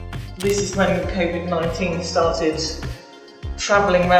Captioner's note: shutter